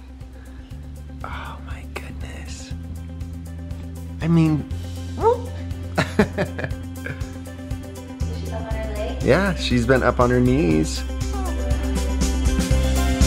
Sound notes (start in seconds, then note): 6.0 laughs